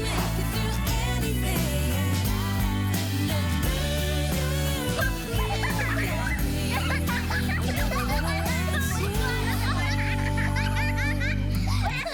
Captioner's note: children talking at once